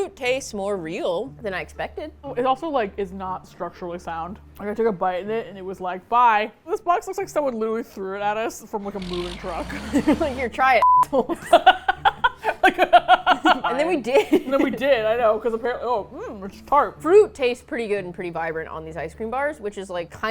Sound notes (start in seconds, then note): 8.8 vroom; 11.1 both laugh